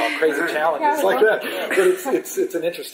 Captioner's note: laughter